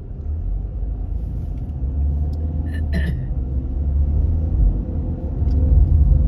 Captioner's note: clears throat